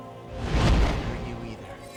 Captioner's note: startling tone